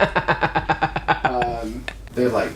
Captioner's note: laughs